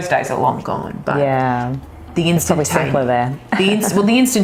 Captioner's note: laughs